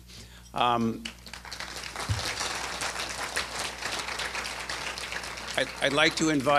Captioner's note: applause